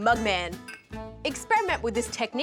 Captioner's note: clink!